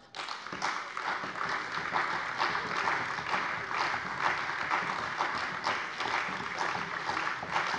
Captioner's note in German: Anhaltender Beifall bei der CDU und dem BÜNDNIS 90/DIE GRÜNEN